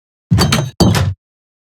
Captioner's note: door closes; door opens